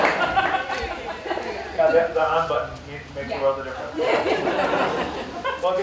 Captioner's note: laughter